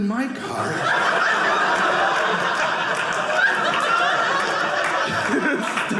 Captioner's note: audience laughing